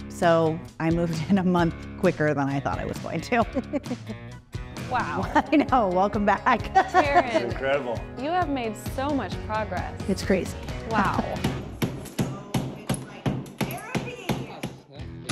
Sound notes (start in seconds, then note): 3.5 laughs; 6.7 laughs; 13.1 hammer clinking